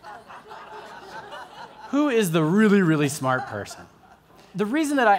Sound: laughter

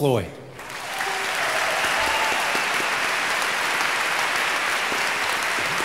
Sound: audience applauding

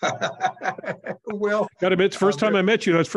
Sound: laugh

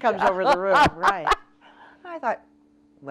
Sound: laughs

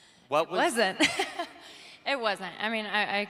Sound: laughing

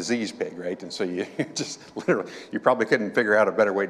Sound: chuckling

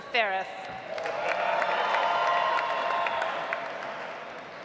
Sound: audience applauds

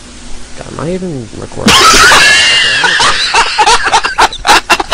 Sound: laughs

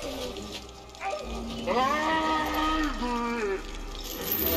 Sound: beast shouting

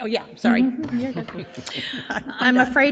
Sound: people chuckle

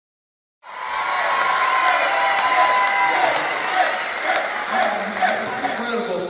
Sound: applause and whistling; chant

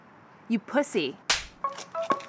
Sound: slap

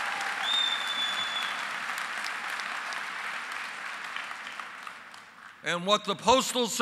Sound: applause

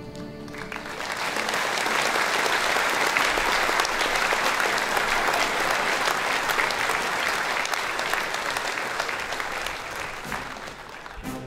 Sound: applause

